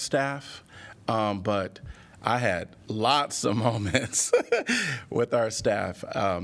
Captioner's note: laughter